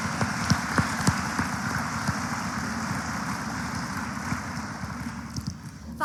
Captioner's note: applause